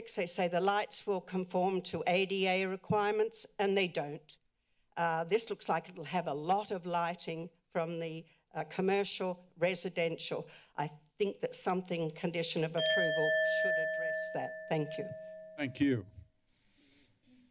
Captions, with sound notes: they say the lights will conform to ADA requirements, and they don't. This looks like it'll have a lot of lighting from the commercial residential. I think that something condition of approval... [bell rings] should address that. Thank you. - Thank you.